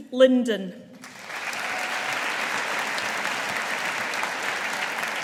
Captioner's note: audience applauding